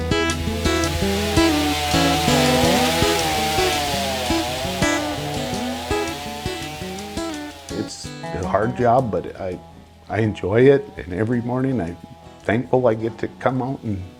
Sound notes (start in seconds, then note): 1.5 chainsaw buzzes